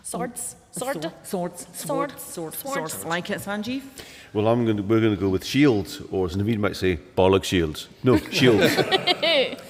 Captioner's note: laughter